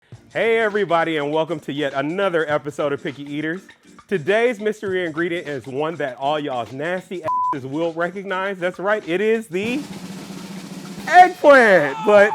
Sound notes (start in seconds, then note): 7.2 beep